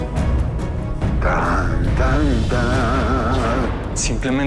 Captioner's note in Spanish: Tararea marcha nupcial